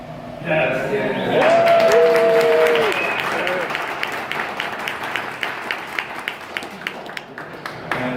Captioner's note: crowd cheering